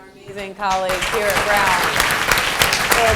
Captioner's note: applause